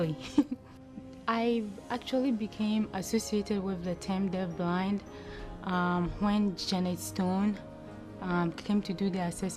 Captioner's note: laughter